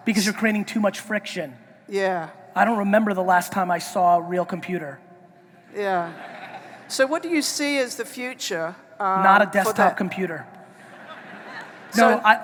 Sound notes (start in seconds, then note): 6.0 audience laughing; 10.8 audience laughing